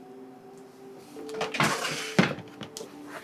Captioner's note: chair creaking